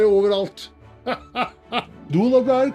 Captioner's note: Santa Claus laughs